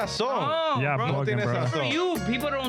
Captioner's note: speaking In Foreign Language